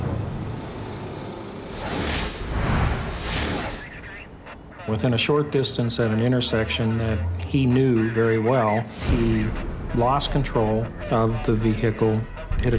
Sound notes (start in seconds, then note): 3.3 police radio chatter